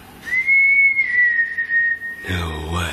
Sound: whistling

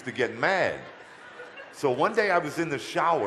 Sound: audience laughter

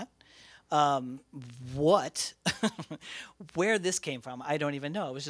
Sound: laughs

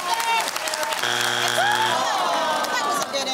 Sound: buzzer sounds

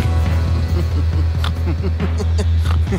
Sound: chuckling; snickering; snort

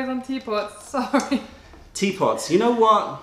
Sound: laughter

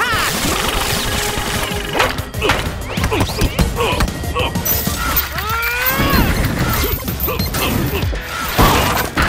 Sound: grunting

